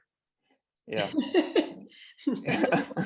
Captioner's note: laughs